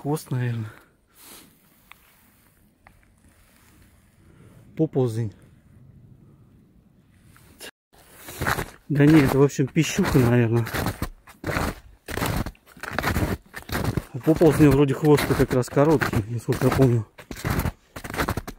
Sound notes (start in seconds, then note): 8.0 snow crunch